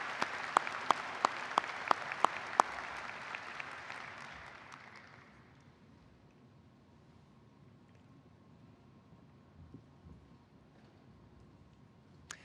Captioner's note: applause